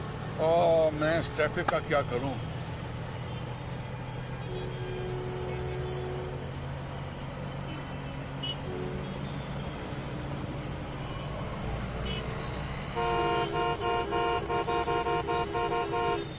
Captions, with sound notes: What to do with this traffic? [car horns honking] [car horn honks]